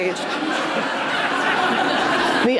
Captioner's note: audience laughs